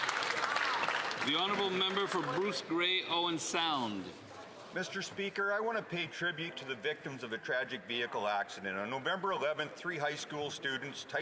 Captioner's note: some Applause